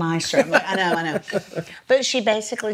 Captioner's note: laughs